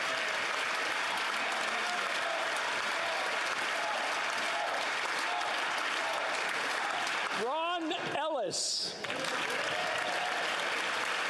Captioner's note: cheering